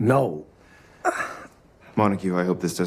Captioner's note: Montague groans